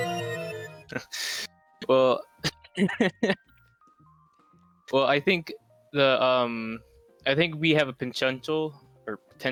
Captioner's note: laughs